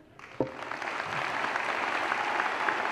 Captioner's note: applause